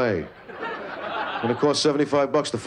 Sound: laughter

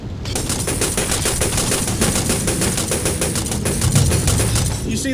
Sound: gunfire

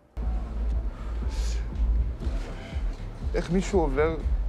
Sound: Raz blows cigarette smoke; speaks in foreign language

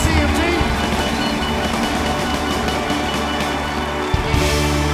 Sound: crowd cheering

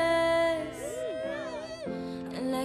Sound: whooping

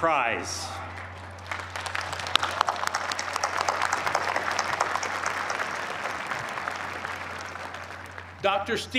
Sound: applause

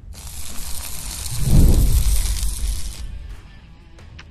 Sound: sparks sizzle

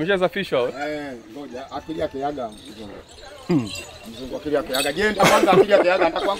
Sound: speaks in foreign language

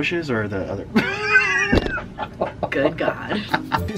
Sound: laughing

